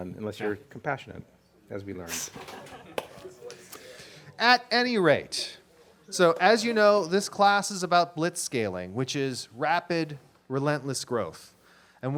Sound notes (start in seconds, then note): 2.1 audience laughs